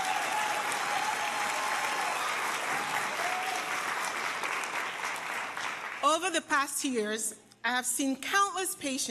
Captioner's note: applause